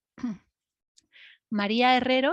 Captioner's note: clears Throat